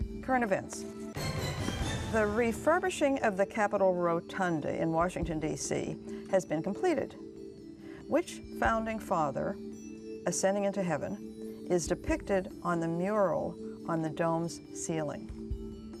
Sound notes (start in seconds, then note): none